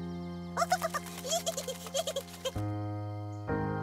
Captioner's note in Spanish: ríen